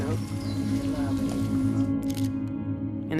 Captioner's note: camera clicks